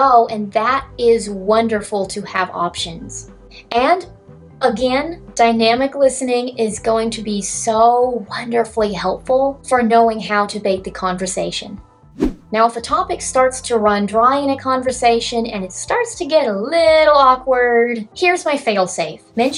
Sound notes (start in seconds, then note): 12.1 swoosh